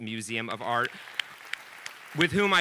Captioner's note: audience applauding